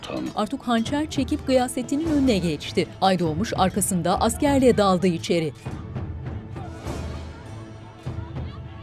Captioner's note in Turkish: Müzik - Gerilim; Dışarıdan gelen dövüş sesleri